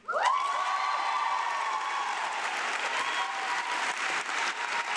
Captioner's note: audience applauding